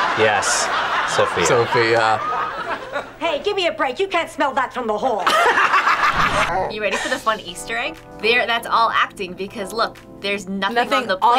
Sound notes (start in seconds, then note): 5.2 laughs